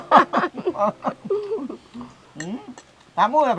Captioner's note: both laughing